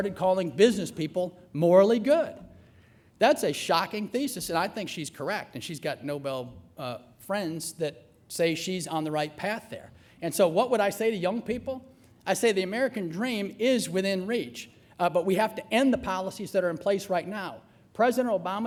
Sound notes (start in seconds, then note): none